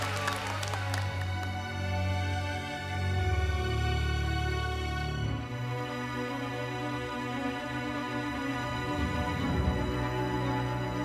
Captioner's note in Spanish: Aplausos